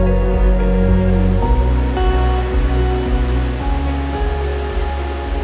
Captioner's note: water babbling